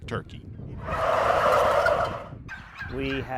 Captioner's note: turkeys gobbling